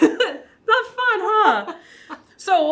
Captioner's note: laughs